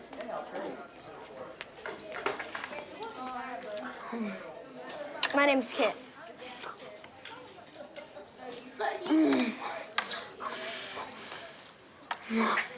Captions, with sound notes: My name is Kit. (moaning)